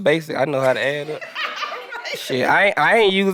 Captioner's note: group laughing